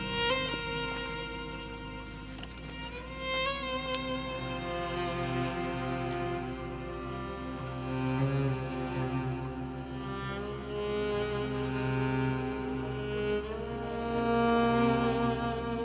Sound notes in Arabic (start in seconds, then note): none